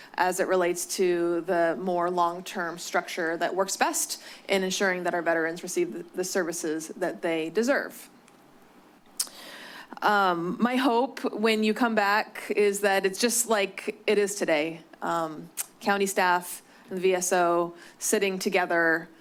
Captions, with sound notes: as it relates to the more long term structure that works best in ensuring that our veterans receive the services that they deserve. [clicks tongue] My hope when you come back is that it's just like it is today. County staff and VSO sitting together